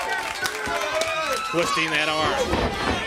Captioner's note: crowd cheering